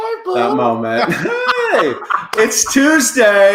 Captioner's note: laughing